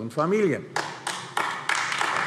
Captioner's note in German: Beifall AfD